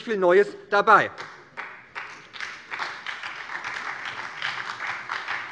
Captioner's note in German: Beifall bei der SPD